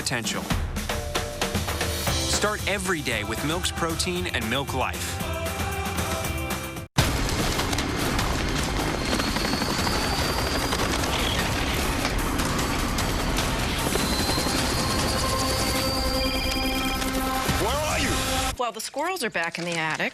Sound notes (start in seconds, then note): 15.7 cell phone rings